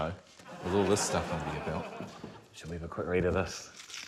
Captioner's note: laughter